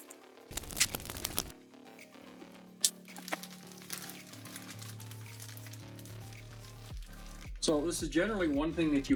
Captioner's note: crunching